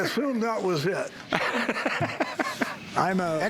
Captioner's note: laughs